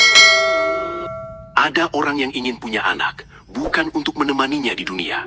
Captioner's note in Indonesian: lonceng